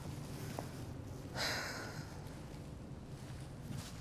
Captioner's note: Olivia sighs